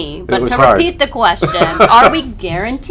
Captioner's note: laughter